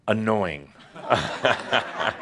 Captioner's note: laughter